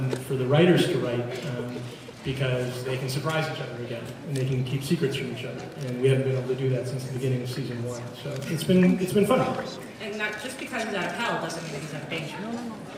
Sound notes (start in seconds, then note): none